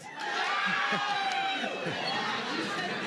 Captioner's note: cheering